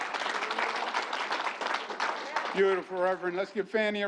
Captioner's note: applause